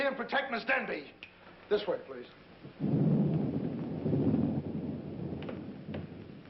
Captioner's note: thunder